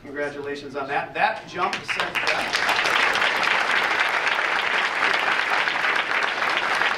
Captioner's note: audience applauding